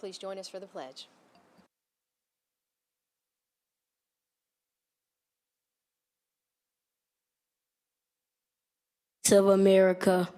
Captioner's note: silence